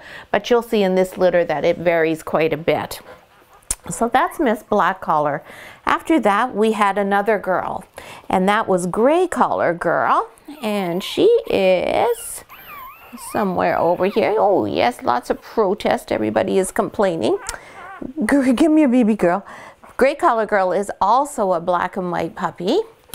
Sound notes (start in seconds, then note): 13.9 puppies whining